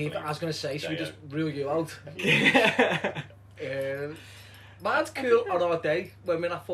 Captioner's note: laughter